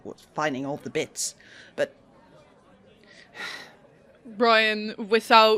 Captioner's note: sighs